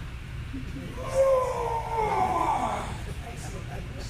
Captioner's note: grunting